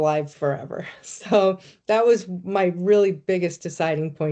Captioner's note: chuckling